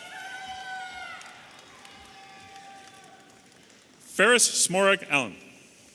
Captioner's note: audience applauding and cheering